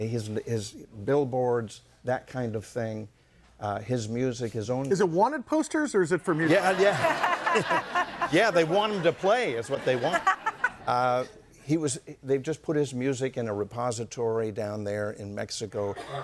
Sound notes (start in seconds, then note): 6.3 audience laughing